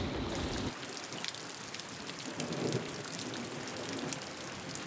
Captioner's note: pattering rain